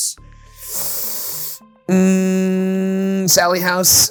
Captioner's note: inhaling sharply